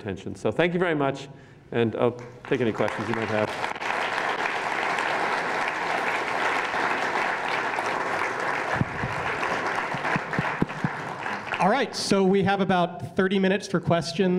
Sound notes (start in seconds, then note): 4.2 applause